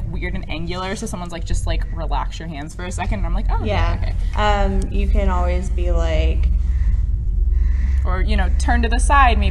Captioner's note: hesitates